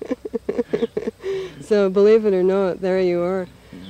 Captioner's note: laughs